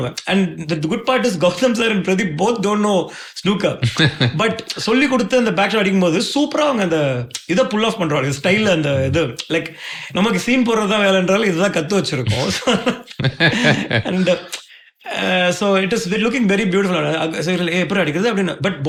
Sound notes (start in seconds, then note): 3.8 laughing; 14.0 laughing